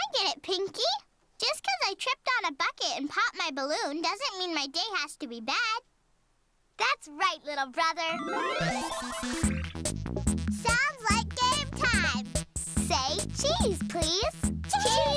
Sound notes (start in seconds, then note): 8.1 electronic bleeping